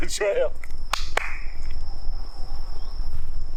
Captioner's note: claps